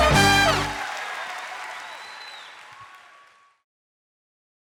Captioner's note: upbeat music; audience continue clapping